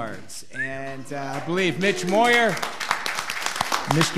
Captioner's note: audience applauding